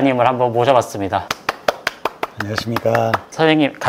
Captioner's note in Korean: 짝짝짝짝짝